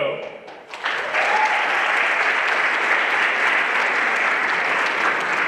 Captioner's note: everyone applauding